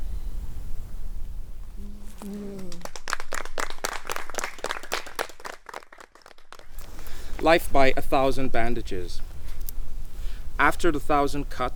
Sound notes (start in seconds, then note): 0.0 applause; 1.7 murmurs of approval; 2.4 applause